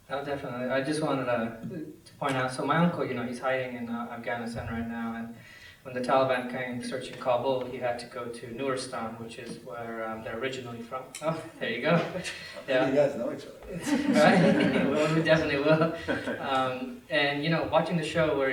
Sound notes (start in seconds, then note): 13.7 laughter